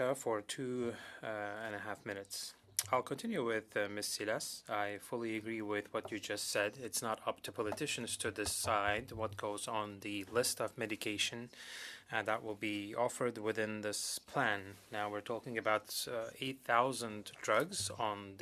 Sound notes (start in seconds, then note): 5.5 speaking French